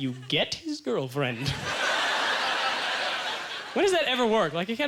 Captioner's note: audience laughter